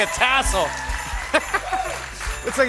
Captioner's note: laughs